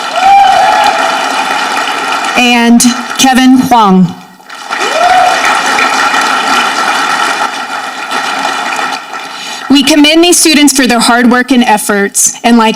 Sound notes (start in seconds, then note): 0.0 audience clapping